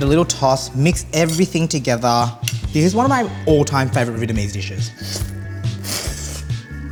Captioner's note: slurps